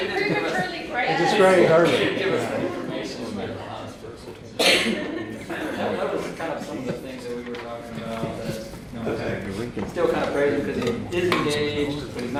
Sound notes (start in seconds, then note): 0.1 laughter drowns out woman; 4.4 softly talking off mic; 4.8 audience softly chuckling